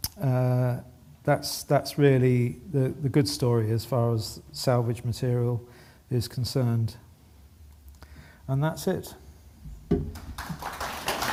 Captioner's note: applause